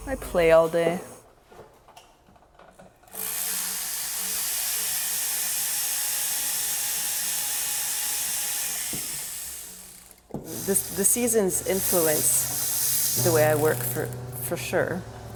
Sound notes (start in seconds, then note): 4.5 power tool whirring